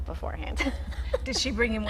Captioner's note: laughing